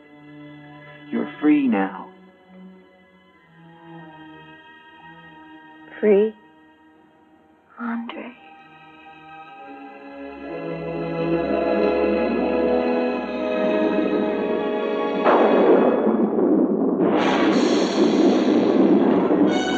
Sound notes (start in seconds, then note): 10.2 anguished music; 15.2 tense music; 15.2 thunder crashing